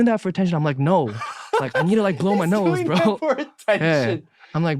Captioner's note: laughing